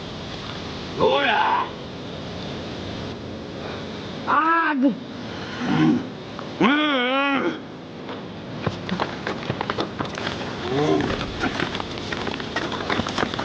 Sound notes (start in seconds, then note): 5.6 Og grunting; 8.5 gravel crunching